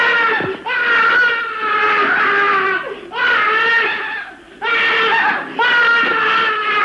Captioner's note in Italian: urla convulse